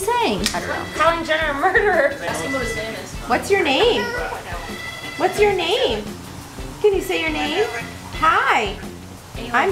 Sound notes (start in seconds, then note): 4.5 bird chirps